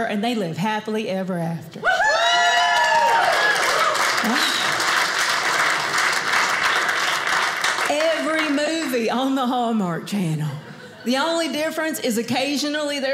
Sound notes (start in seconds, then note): 1.9 audience cheers; 2.3 audience applauding